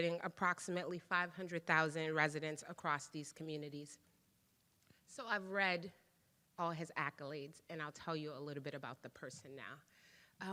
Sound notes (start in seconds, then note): none